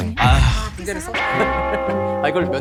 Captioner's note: laughing